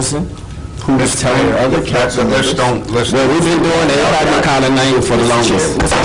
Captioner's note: gavel bangs